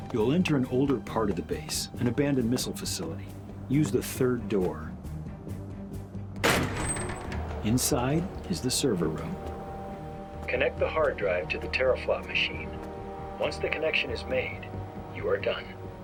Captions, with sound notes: You'll enter an older part of the base, an abandoned missile facility. Use the third door. (door banging) Inside is the server room. Connect the hard drive to the teraflop machine. Once the connection is made, you are done.